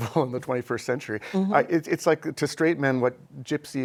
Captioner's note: laughter